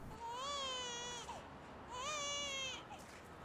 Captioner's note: baby crying